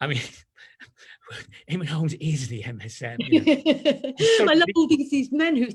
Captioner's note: laughs